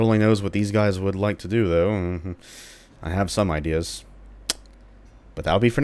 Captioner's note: nervous muttering chuckle